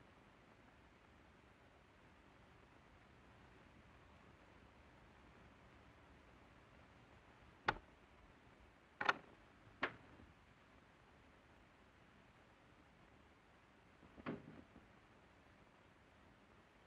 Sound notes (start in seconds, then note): 9.0 door unlocking; 14.2 door closing